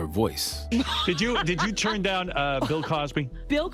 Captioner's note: laughs